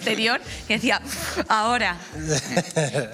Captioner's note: he laughs